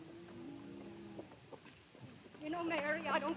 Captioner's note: cows mooing